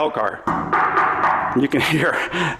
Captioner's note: metallic knocking